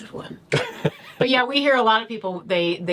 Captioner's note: laughs